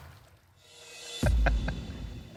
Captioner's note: laughter